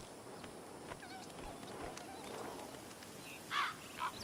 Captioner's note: hooves walking